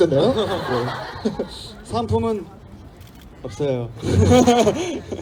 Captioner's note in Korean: 웃음; 웃음